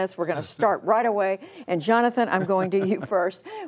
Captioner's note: laughter